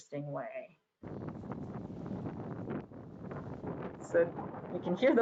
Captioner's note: wind blowing intensely